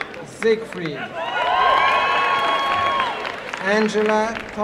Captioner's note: applause and cheering